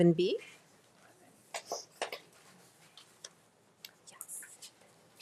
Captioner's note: speaking faintly